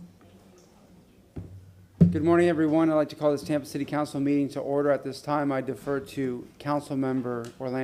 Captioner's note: gavel sounding